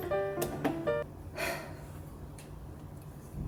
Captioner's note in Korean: 한숨